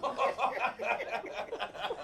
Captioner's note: laughter